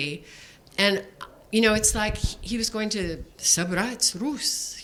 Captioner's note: speaking foreign language